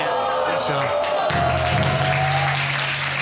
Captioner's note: audience exclaiming